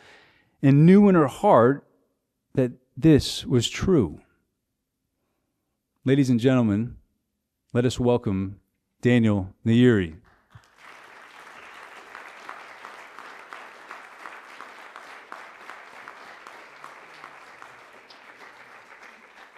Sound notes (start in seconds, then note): 10.3 applause